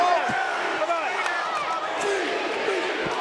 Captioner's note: audience cheering